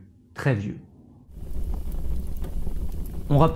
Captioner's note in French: feu crépitant